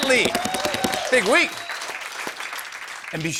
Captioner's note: cheers and applause